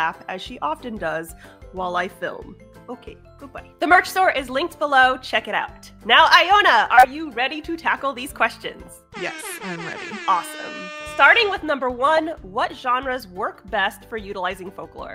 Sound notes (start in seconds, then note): 9.1 alarm sounds